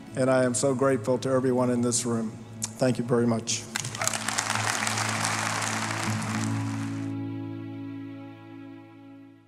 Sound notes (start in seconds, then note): 3.7 applause